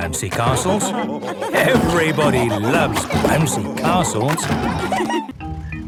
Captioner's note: laughter